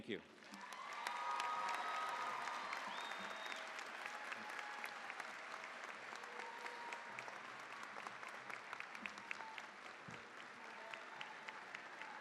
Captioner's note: cheering, applause